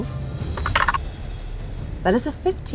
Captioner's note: die rattling